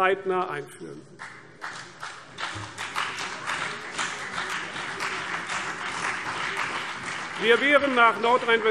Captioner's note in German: Beifall CDU und vereinzelt BÜNDNIS 90/DIE GRÜNEN